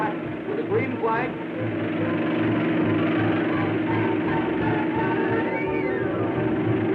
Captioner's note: car thrumming; thrilling music